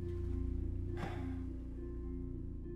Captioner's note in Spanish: suspira